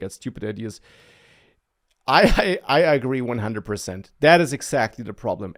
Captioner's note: laughs